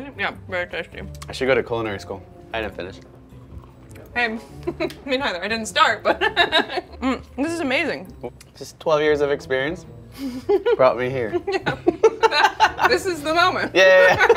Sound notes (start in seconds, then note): 6.8 laughs; 11.2 both laughing